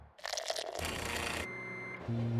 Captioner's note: coffee gurgling; machine humming; button beeping